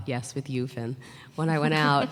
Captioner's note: laughter